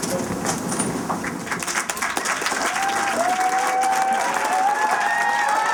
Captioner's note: cheering and applause